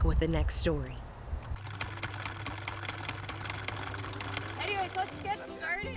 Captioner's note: sewing machine chucking